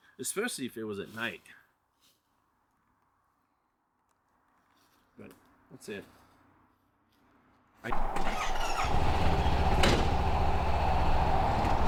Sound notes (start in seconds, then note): 7.9 car rumbling; 7.9 car screeching